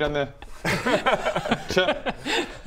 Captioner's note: laughs